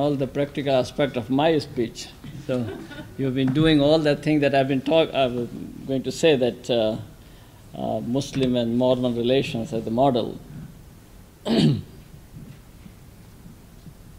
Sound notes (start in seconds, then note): 2.4 laughter; 11.4 clears throat